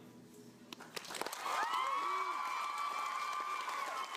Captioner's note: cheering and applause